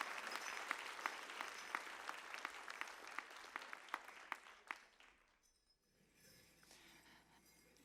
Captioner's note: applause